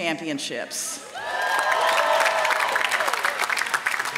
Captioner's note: applause